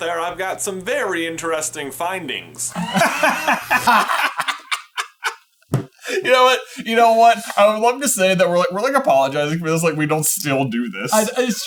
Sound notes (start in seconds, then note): 2.7 laughing; 2.7 mechanical noises